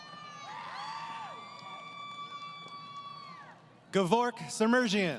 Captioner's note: crowd Cheering